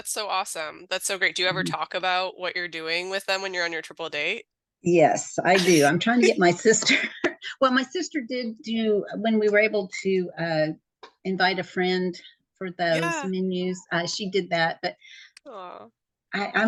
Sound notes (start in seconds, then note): 5.5 both laughing